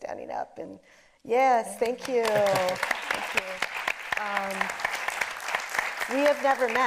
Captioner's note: audience applauding